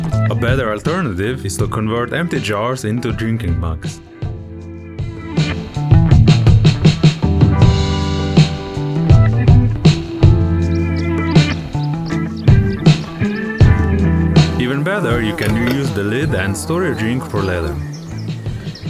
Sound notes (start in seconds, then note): 11.5 sound of insects buzzing